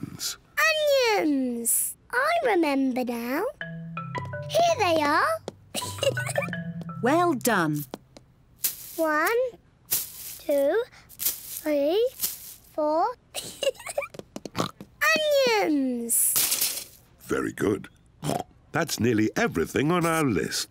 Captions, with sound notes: Onions! I remember now. Here they are. (GIGGLES) Well done. One, two, three, four. (GIGGLES) (OINKS) Onions! Very good. (OINKS) That's nearly everything on our list.